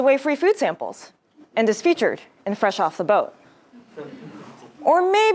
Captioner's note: laugh